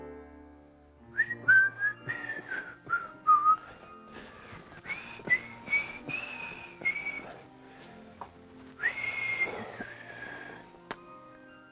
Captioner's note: distant sleepy piano; Andrew whistles